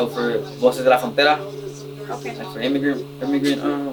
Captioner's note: speaks in foreign language